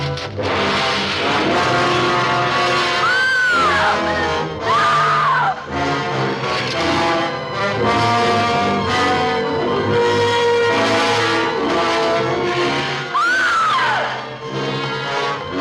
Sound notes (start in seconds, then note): 0.1 suspenseful music; 2.9 screaming loudly; 13.1 screams loudly